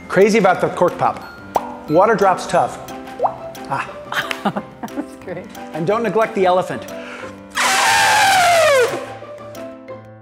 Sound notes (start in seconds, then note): 3.2 water drop; 7.5 trumpets like an elephant